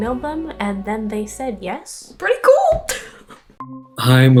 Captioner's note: laughs